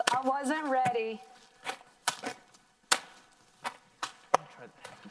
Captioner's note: plastic popping and crackling